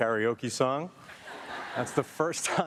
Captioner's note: audience laughing